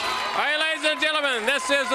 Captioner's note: bell ringing